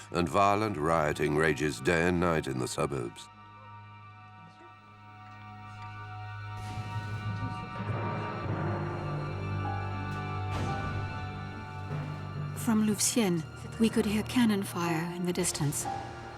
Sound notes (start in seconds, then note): 5.2 dramatic music; 6.5 cannon fire booming